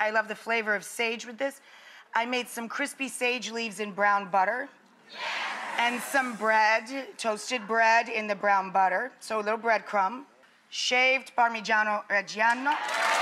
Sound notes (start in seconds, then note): 5.1 audience responds